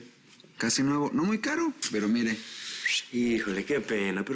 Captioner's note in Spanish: Silbido